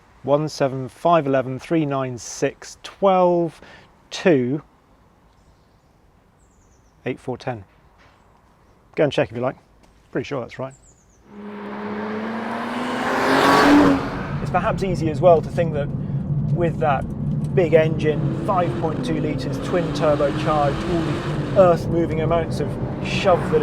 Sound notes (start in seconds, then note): 11.5 car zooming